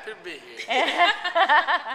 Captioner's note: laughing